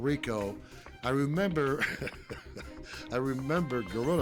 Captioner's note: laugh